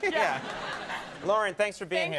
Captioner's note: crowd laughs